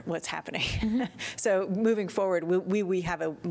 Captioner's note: laughter